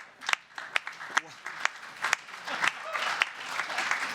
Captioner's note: applause